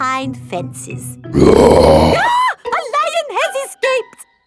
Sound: roars; screams

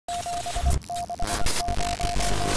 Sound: radio beeps and static

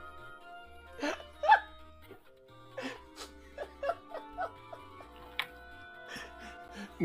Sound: dying by laughing

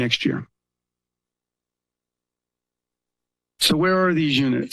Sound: pause

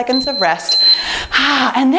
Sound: timer beeps

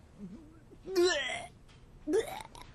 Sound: vomiting1; vomiting2

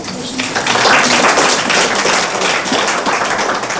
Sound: applause

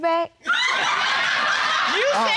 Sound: audience laughing

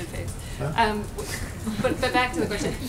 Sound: laughter

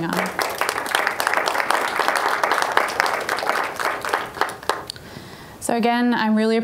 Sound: applause

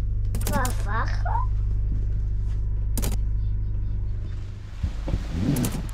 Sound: speaks in an indistinct language

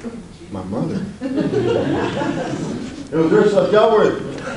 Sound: audience laughs

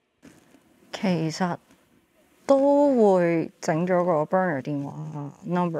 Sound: speaking in Cantonese

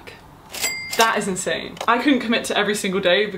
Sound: cash register chiming

